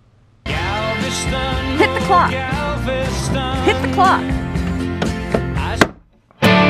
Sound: alarm clock plays the song

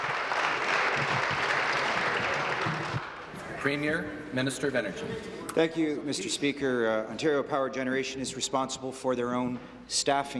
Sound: some Applause

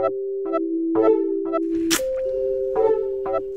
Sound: lip smacking

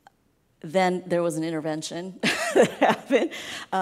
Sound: laughs

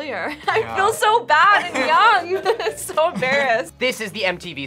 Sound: laughs

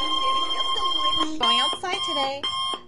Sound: distorted Noises Continues; distortion Stops, Analogue clock Beeping

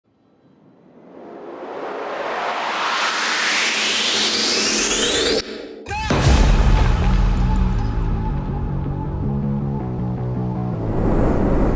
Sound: whoosh

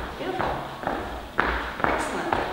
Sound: feet tapping

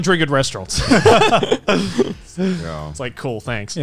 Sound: all laughing

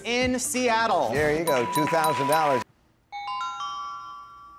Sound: puzzle dings; chiming music

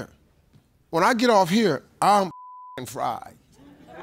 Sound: beep

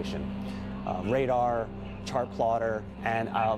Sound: voiceover

